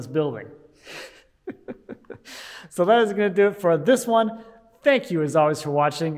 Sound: laughing

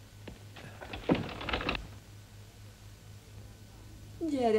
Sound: lock clicks

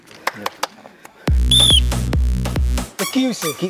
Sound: whistle

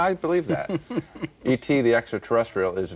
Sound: chuckles

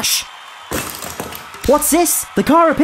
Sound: small smash

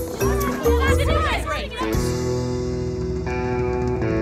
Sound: excited chattering

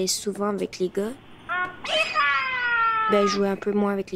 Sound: yelling

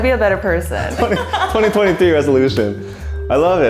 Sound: both laughing

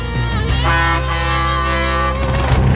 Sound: honking

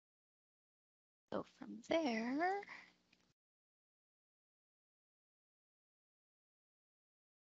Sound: pause

